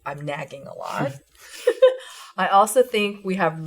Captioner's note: chuckles; laughs